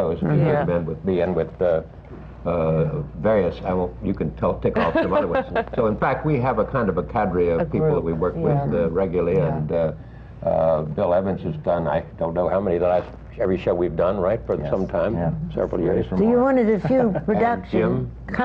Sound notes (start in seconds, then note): 4.8 laughs